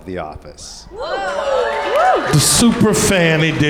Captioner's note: audience woops and cheers